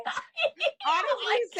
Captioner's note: laughing